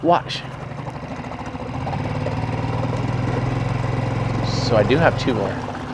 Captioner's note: boat engine droning